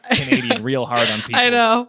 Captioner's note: laughing